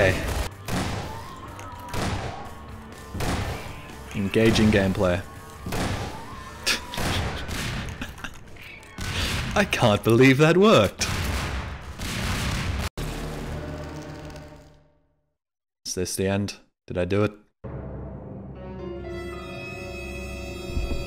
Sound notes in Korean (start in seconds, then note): 5.7 총소리; 6.9 폭발